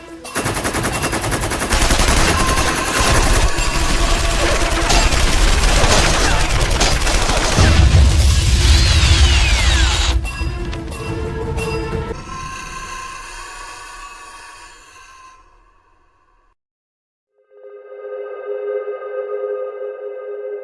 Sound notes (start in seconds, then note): 0.3 tank gun blasting; 7.6 explosion booms; 12.1 beast shrieks; 17.4 calm ambient music